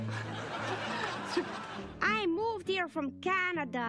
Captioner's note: canned laughter